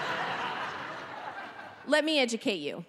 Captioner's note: audience laughing